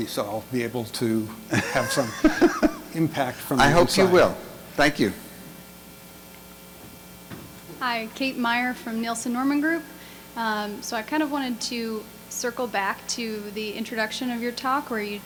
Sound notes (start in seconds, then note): 1.5 laughs; 8.1 voiceover